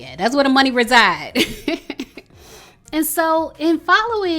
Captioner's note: woman chuckling